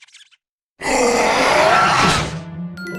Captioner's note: roars